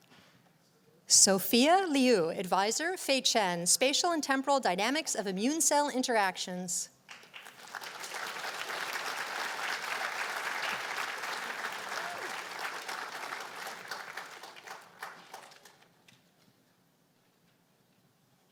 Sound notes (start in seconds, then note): 7.2 applause